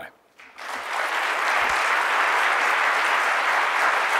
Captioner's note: audience clapping